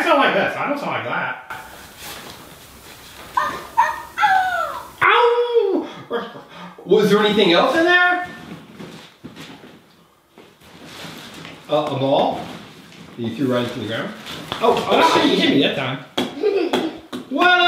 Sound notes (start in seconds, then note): 3.3 toy barking